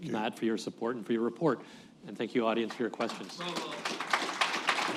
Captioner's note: applause